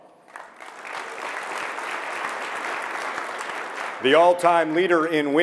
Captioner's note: audience clapping